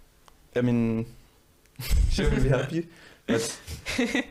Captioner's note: all laughing